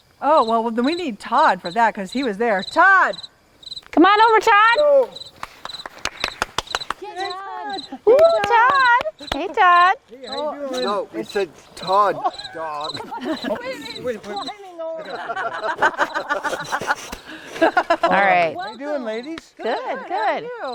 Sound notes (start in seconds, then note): 5.2 people clapping; 7.8 people cheering; 10.9 people laughing